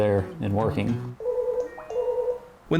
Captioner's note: phone ringing